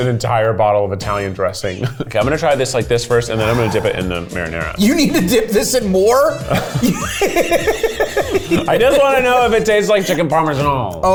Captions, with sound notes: an entire bottle of Italian dressing. Okay, I'm gonna try this like this first and then I'm gonna dip it in the marinara. - You need to dip this in more? (laughs) I just wanna know if it tastes like chicken Parmesan.